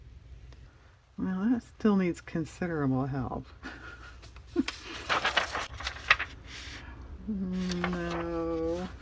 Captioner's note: laughs